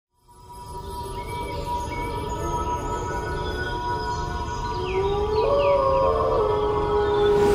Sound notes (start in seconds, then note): 4.6 howl